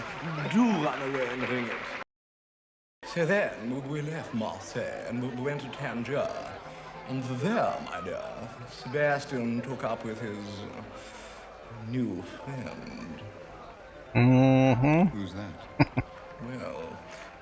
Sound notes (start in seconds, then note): 15.7 chuckling